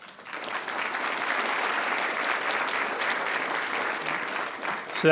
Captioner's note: attendees applauding